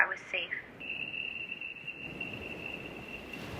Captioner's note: electronic pulse; ocean waves